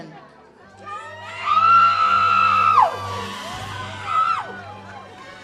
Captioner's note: audience cheers